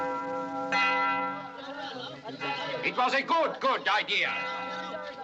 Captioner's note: men Chattering